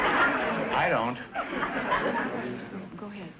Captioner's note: audience laughter